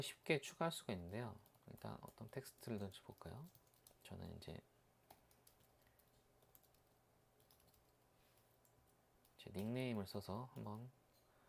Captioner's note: typing hard